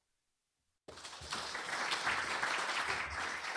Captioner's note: applause